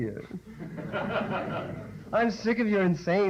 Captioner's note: laughter